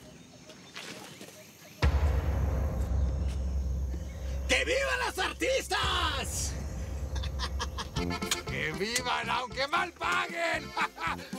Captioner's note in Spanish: risas